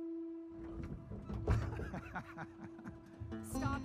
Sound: laughing

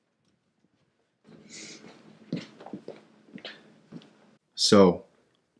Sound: footsteps walking

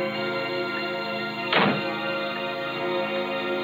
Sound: door slams

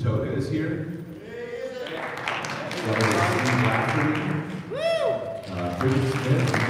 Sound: applauds

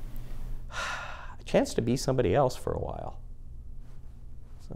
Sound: sighs

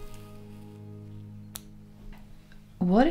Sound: snip

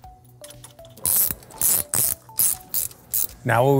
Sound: bright music continues; tool clicking

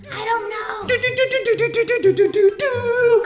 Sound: humming

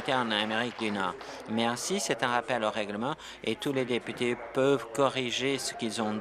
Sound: applause

